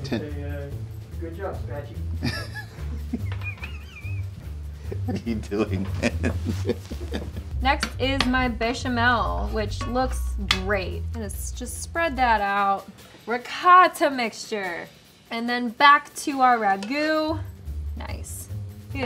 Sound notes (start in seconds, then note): 2.2 laughing loudly